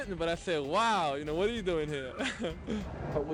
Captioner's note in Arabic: يضحك